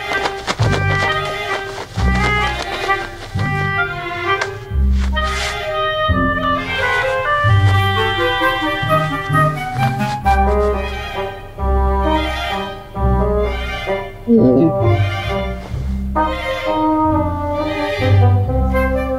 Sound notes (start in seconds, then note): 0.1 playful music; 14.3 dog whines; 15.6 playful music